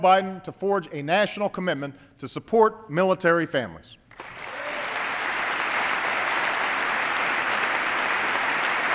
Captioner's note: applause